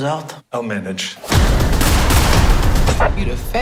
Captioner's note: gunshots ring out